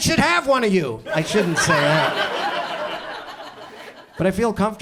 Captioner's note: audience laughs; audience chuckles